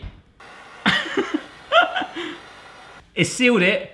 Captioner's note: laughing